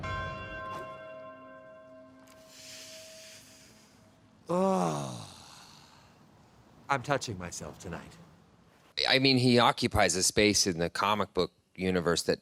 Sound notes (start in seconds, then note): 0.0 bell chimes; 2.4 inhales deeply